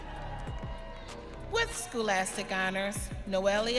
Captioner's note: audience cheering